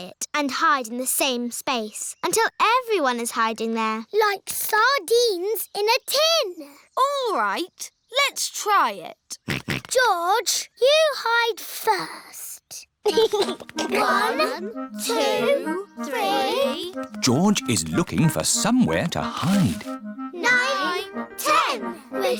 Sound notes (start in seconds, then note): 9.6 snorts; 13.0 chuckles